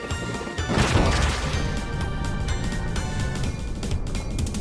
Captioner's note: exciting music; train thudding